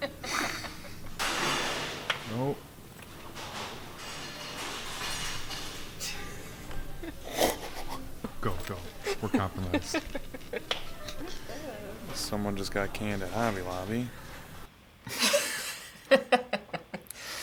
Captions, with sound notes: Oh. (objects clattering) Go, go, we're compromised. - Someone just got canned at Hobby Lobby.